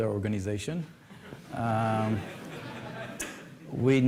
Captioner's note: laughter